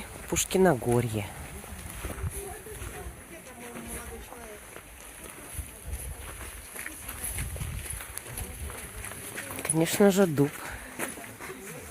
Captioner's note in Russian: хруст снега